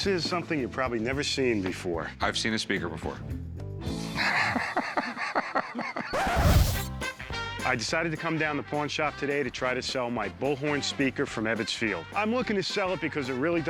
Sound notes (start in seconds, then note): 4.1 laughing; 6.1 record scratch